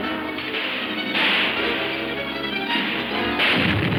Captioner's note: explosions booming